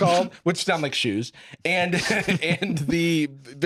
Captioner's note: laughs